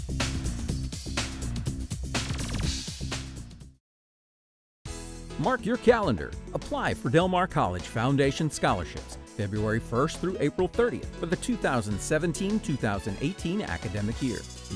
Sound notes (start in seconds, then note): 5.4 voiceover